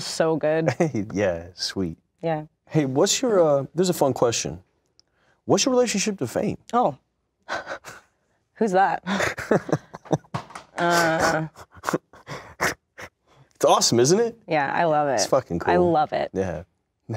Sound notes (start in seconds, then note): 9.0 Shia laughs